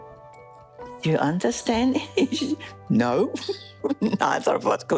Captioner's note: laughs